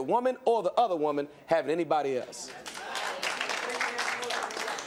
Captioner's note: applause